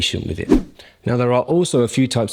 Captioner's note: swoosh